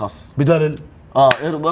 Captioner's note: tosses coin